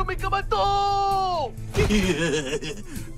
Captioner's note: chuckling